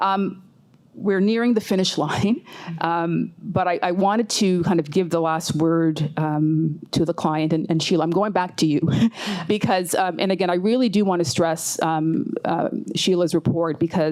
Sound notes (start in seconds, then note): 9.7 chuckles